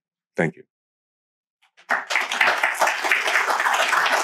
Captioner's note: applause